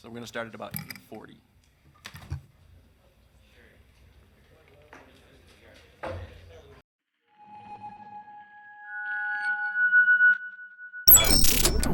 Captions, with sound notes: So we're gonna start at about 8:40. (people chattering distantly) (bright digital music)